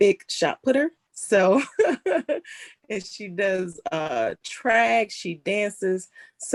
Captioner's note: laughs